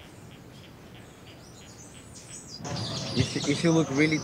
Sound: birds chirping

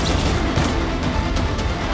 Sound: headphones slamming

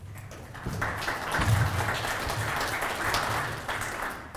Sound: clapping

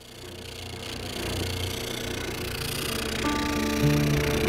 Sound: spindle sander buzzing; gentle guitar music

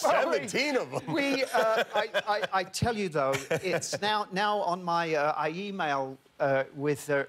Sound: laughter

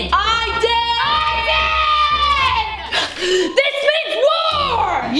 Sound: screaming

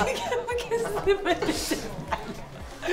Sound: laughter

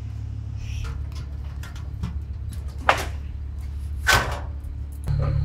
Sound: machine engine rumbling

